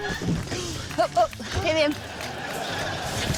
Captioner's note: grunts